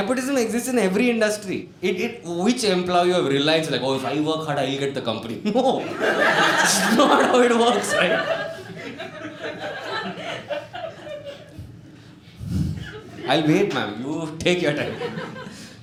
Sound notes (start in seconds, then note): 10.0 lady in the audience thinks she can laugh in her own time